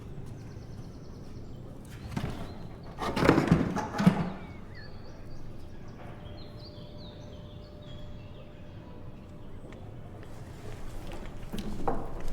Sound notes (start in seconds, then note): 3.0 heavy cover hits the floor